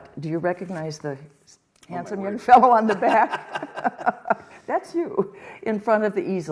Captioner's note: laughter